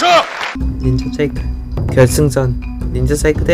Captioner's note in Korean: 두둥